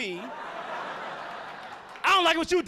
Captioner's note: audience laughing